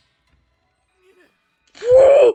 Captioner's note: pained wincing